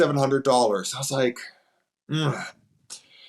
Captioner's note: groans